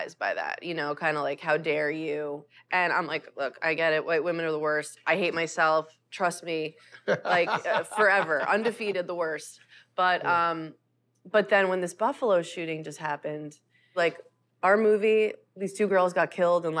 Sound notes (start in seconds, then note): 7.0 laughs